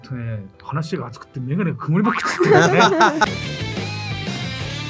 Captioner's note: laughs